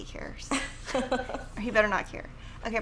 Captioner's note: laughs